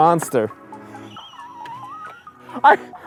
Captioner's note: Mike chuckles